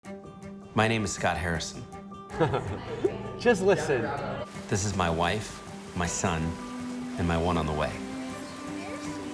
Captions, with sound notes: My name is Scott Harrison. [laughing] Just listen! This is my wife, my son, and my one on the way.